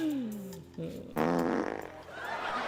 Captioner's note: farting noise